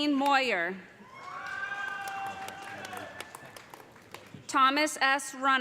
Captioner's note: cheers and applause